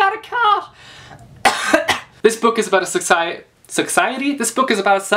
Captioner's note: coughs